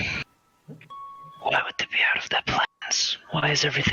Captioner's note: whispered